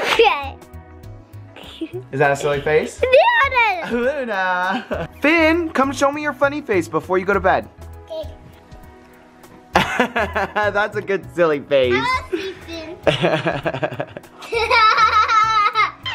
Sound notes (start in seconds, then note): 0.1 chuckles; 9.7 laughs; 13.0 laughs